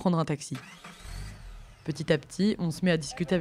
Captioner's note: engine starting